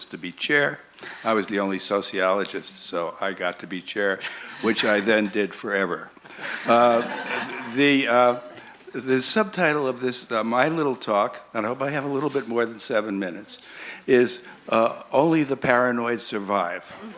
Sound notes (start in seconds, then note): 4.2 laughs; 6.2 laughter